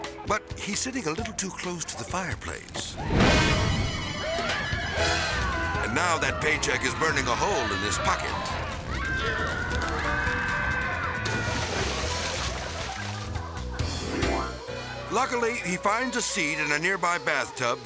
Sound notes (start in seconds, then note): 2.5 flames whipping; 3.0 dramatic beat; 4.8 whimsical music; 5.1 man screaming; 8.4 people screaming; 11.2 water splashing; 13.0 people laughing